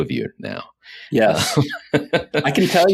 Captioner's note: laughs